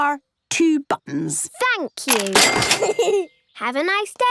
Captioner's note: giggles